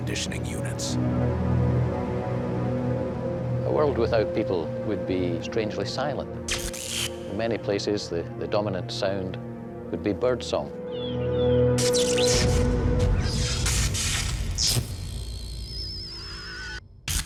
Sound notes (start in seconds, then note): 0.2 ominous music; 10.8 bird chirping